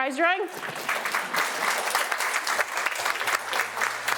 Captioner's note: audience applauding